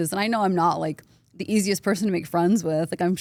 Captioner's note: none